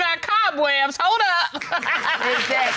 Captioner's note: audience applauding